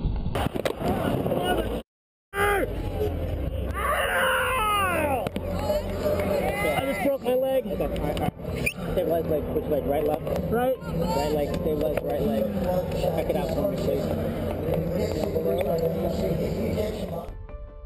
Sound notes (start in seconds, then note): 1.3 swearing and screaming in pain; 8.8 paramedics speaking